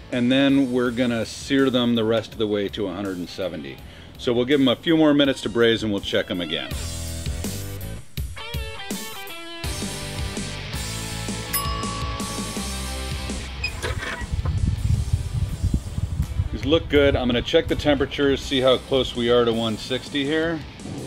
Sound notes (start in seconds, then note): 6.2 rock music continues; 11.5 bell ringing